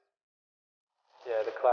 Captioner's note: gravel crunches